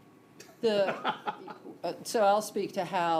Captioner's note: laughs